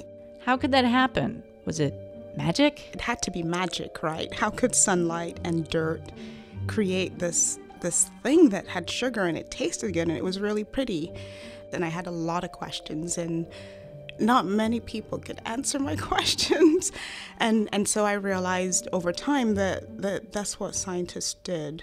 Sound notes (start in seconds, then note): 17.3 laughs; 20.8 music fades out